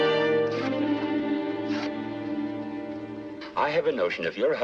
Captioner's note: dramatic music; paper ripping